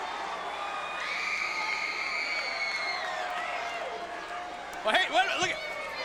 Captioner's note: crowd cheering